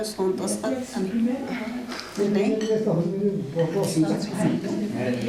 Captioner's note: non-english speech